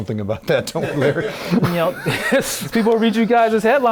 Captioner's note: crowd laughs